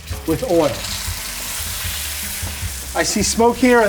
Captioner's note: steak sizzling